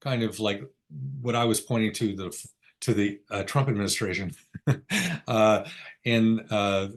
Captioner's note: chuckles